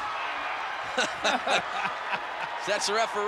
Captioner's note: both laughing